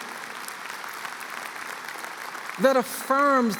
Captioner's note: applause